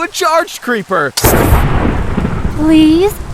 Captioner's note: creeper hitting thunder sounds